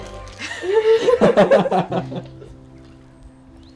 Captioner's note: group laughing